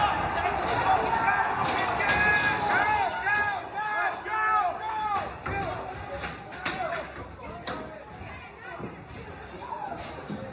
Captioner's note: yelling